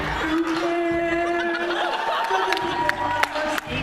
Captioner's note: laughter